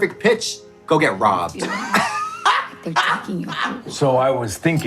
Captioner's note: both laughing